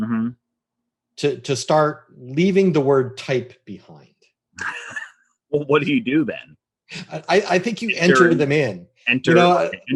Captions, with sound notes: to start leaving the word type behind. (chuckles) - Well, what do you do then? - I think you enter them in. - Enter them in.